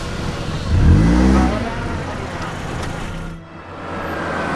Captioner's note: car engine starts; car engine revving